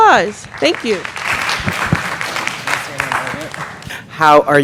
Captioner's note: audience applauding